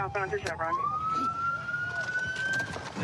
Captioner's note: sirens